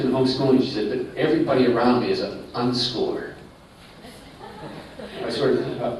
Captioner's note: laughter